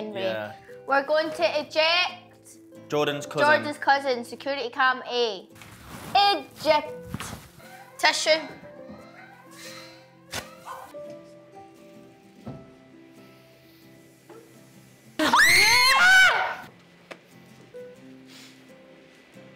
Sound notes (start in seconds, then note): 15.2 screaming